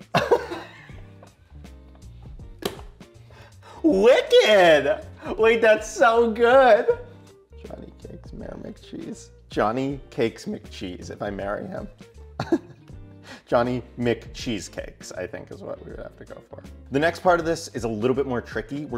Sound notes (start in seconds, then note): 0.0 laughing; 12.4 giggles